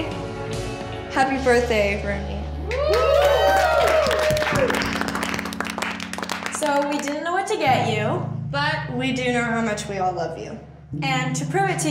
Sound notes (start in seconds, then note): 2.6 cheers and applause